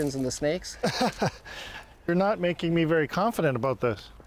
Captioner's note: laughs